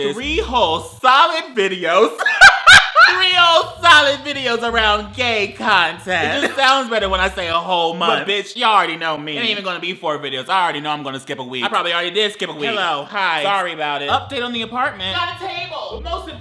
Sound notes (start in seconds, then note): 2.0 laughs